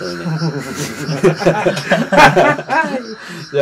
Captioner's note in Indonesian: Ketawa semua